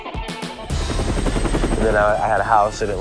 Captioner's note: helicopter whirs